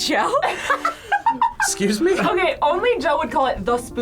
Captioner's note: laughs